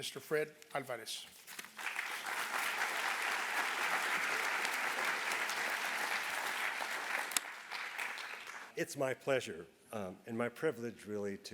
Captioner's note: applause